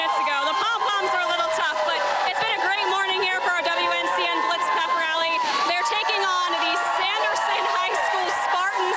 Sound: cheering and applause

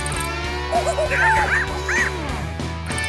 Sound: monkey noises

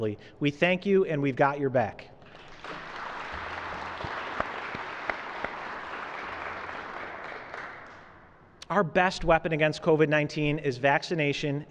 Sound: applause

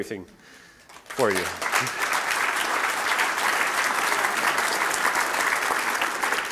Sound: applause

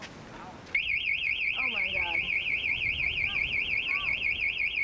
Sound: alarm ringing

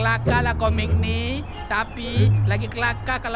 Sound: see-saw creaking

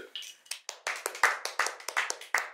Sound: sound of applause

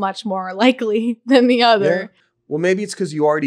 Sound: laughing

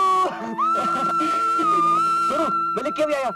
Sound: laughs

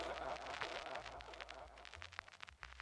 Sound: static

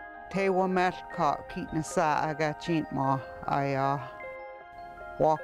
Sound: speaking in yurok

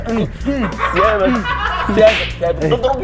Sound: laughing

